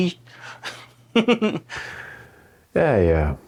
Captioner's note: Vegas chuckles